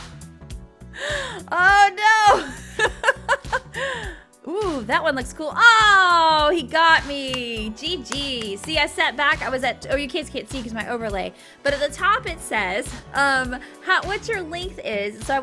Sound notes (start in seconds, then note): 0.9 gasping; 2.3 laughing